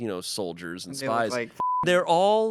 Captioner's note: beep